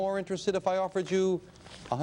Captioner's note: audience chuckling